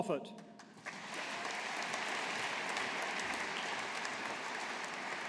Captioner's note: audience applauding